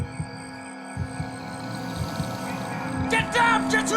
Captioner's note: creature growls